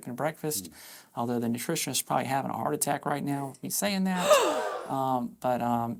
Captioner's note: gasp